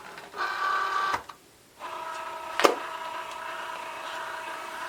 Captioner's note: machine whirring